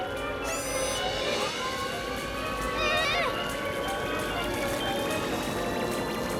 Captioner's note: mystical music; machines whirring; electricity zapping